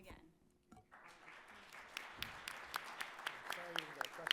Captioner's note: attendees applauding